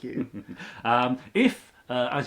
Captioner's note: chuckles